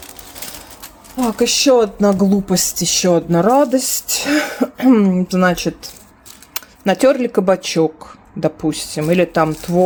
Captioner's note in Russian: откашливается